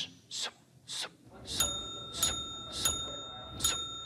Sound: bell dinging

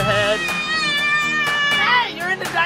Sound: screaming

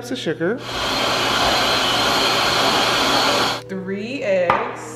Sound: mixer whirring

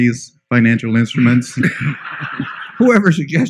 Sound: laughter

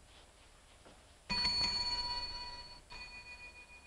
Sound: bell dinging

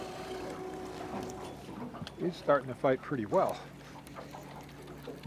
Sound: boat engine idling

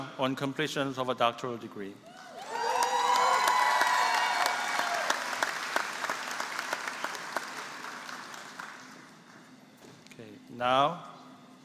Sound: applause

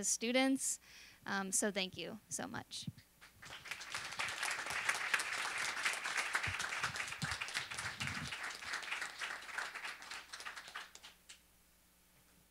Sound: applause

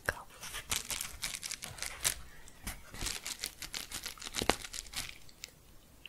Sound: quick crinkling

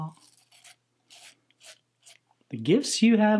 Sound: razor scratching

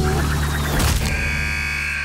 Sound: buzzer sounding

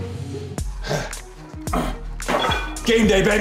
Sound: grunts

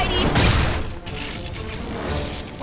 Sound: crash

